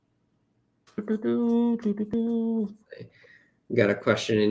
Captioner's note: humming